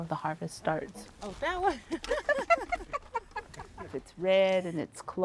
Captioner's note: laughing